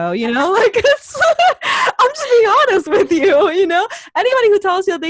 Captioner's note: laughs